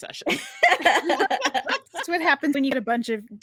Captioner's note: everyone laughs